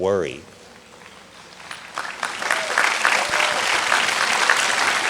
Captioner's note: audience clapping